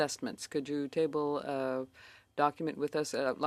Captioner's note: speaking in French